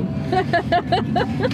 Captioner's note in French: rires